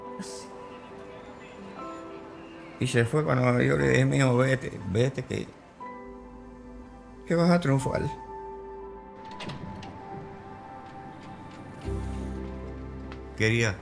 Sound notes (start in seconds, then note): 0.1 people chattering; 2.9 speaks in foreign language